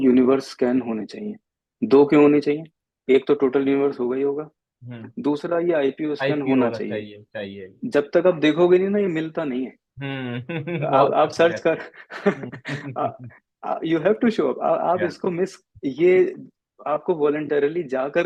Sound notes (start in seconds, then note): 10.3 laughs